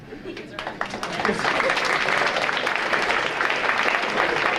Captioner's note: audience applauding